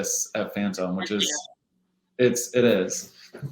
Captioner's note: microphone distorts